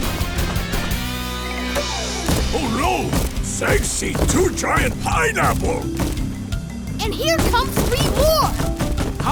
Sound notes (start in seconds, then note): 2.2 thumping